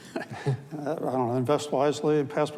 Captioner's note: chuckles